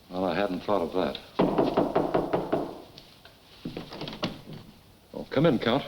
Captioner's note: visitor knocking